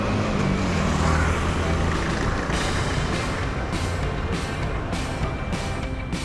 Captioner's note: laughs